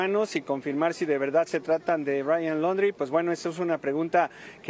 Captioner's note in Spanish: AUDIO EN INGLéS